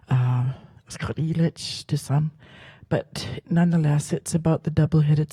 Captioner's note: speaks Halkomelem